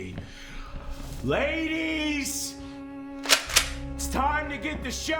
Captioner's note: shotgun clicks